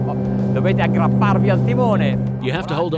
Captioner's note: speaking in foreign language